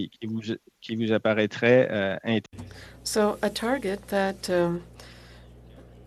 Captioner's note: speaking French